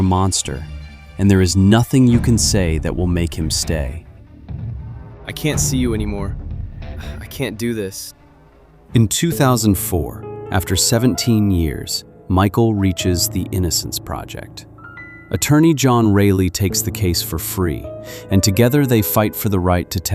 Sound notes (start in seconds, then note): 6.8 sighs; 9.0 soft piano music